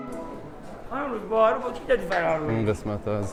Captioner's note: indistinct chatter